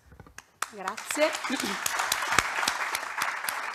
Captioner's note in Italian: Applauso